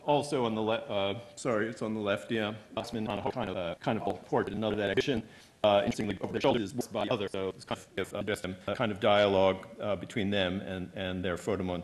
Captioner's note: audio error